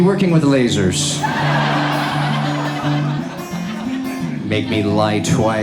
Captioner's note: audience laughs